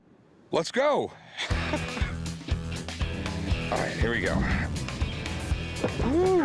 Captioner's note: laughs